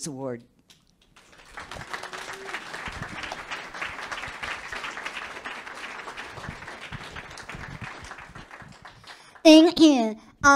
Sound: public clapping

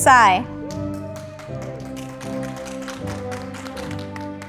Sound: audience applauding

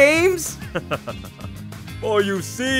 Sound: chuckles

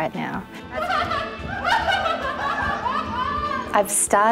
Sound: dancers laughing

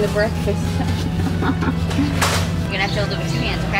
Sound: giggles

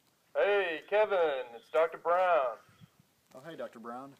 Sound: phone voice

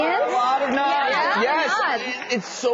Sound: audience talking

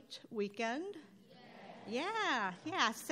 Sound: crowd

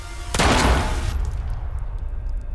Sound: gun firing; bullet clinking

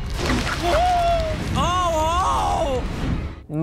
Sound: screaming

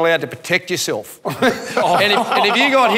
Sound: people laughing

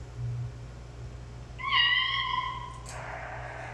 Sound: meow

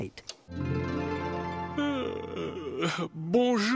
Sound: yawn

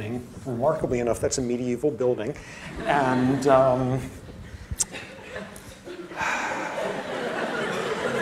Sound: sigh; laughter

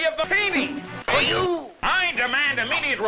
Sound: fwip!

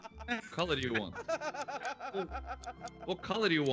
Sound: laugh

